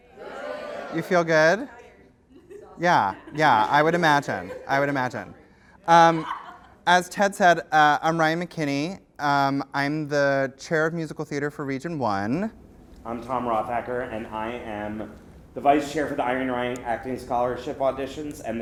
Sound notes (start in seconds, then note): 0.2 voiceover